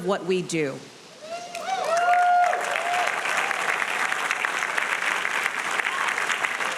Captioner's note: audience cheering and applauding